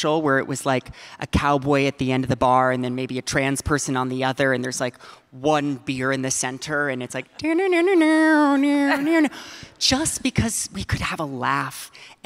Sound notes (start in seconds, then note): 7.2 audience laughing; 8.8 laughing